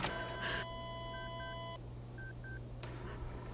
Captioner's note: beeping